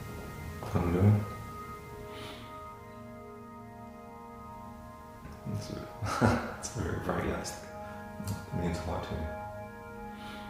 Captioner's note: laughs